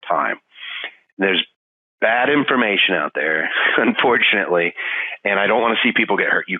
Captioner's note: laughing